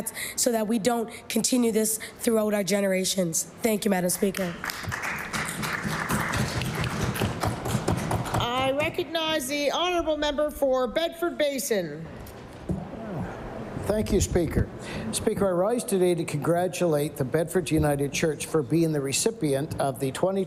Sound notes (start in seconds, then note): 8.3 applause